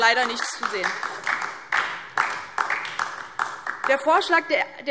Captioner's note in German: Beifall DIE LINKE